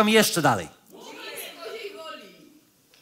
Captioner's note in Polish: okrzyki publiczności